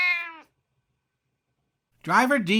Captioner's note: meow!